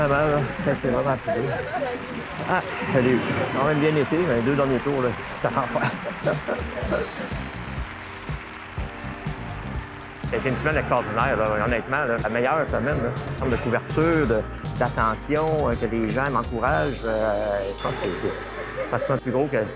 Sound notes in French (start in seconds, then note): 4.7 rire